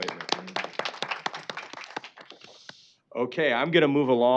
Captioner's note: applause